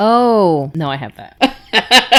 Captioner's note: laughing